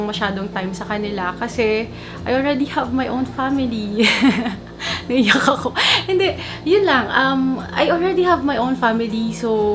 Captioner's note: laughs